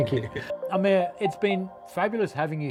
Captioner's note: chuckling; screen chiming